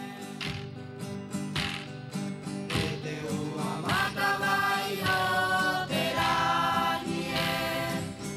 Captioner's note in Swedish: Applåder